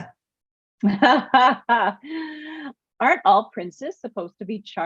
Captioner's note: laughing